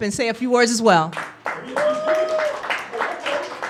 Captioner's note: applause